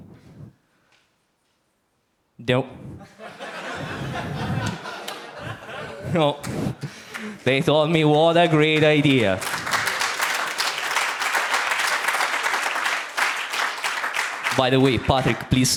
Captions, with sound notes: (audience laughs) They told me what a great idea. (audience applauds) By the way, Patrick, please